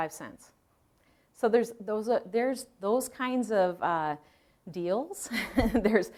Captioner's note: chuckles